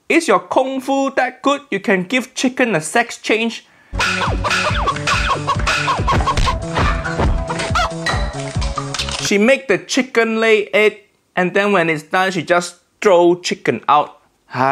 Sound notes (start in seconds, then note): 3.9 upbeat music; 4.0 chicken clucking